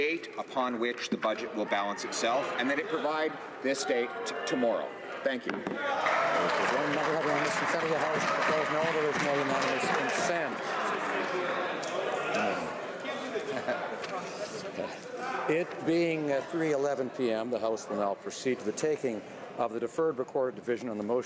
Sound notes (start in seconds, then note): 9.3 some Applause